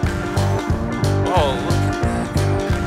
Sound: sighs

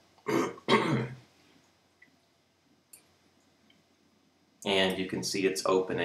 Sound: clears throat

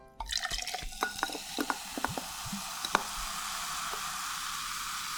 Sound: cool sparkling watere sound 🥤

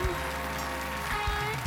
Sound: cheers and applause

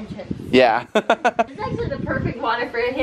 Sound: laughs

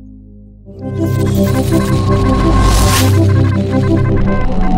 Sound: beeping sound

